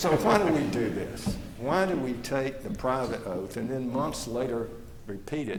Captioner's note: laughter